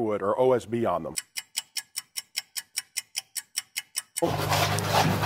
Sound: clock ticking

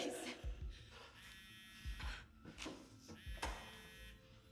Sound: phone buzzing

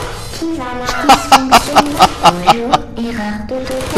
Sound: laughter

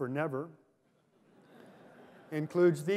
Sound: laughter

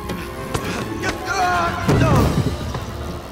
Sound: groaning

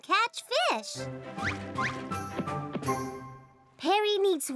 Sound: wings flapping

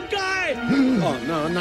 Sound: gasp

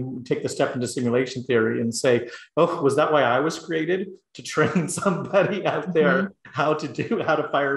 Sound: laugh

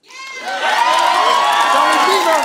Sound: cheering

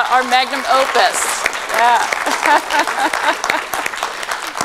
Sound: applause

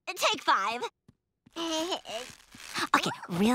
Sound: babbling

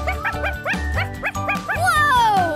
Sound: Sparky barking

